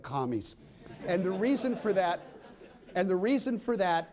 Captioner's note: laughter